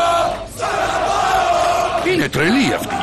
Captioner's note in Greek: φωνάζουν όλοι